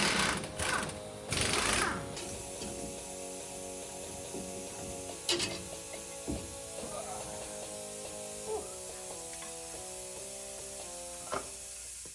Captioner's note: drilling